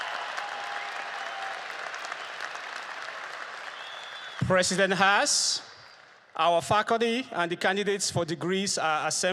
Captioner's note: applause